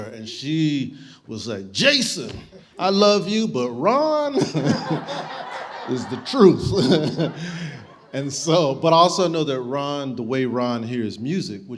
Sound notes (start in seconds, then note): 4.3 audience laughing